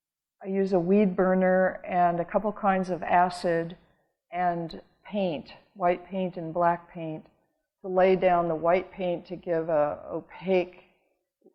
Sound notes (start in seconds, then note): none